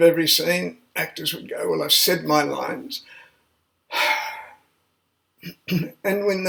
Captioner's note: sigh